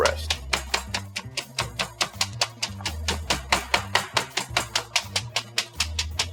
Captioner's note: bright music; mallet banging